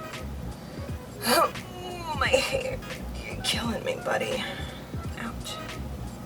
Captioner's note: frustrated sigh